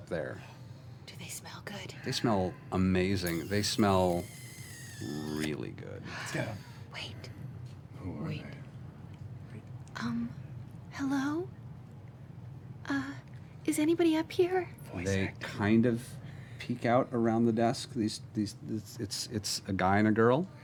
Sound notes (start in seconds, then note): 0.5 whispering; 8.4 quietly